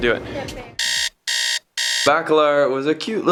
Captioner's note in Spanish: alarma